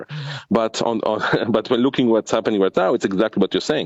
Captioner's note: laughs